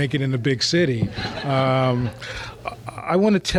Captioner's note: laughter